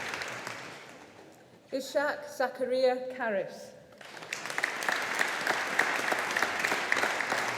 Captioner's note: audience applauding